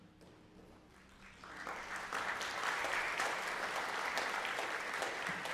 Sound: congregation applauds

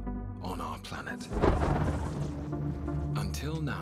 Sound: thunder rumbles

